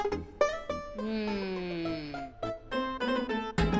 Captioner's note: Ana moans